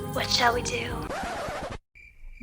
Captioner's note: record scratch